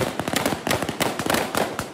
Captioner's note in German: Laute Schüsse